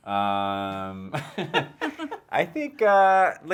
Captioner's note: laughing